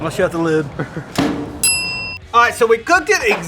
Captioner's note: bell dings